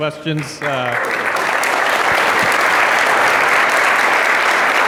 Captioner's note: audience applauds